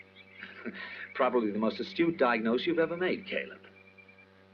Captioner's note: chuckles